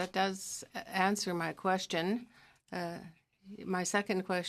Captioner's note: speaking French